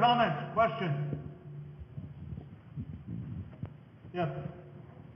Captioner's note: microphone noise